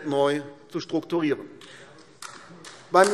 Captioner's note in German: Beifall AfD